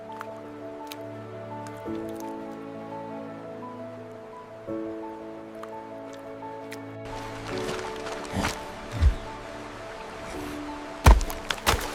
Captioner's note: water splashing